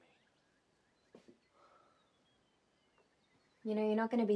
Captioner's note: birds chirping